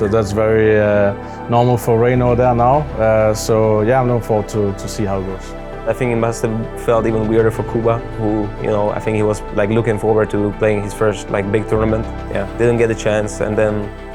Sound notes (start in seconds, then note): none